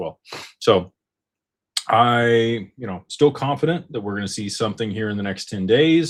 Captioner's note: snorts